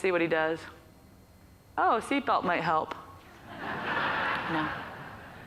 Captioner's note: audience laughs